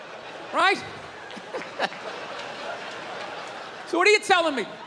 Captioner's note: crowd laughs